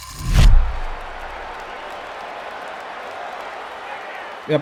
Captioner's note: fans cheering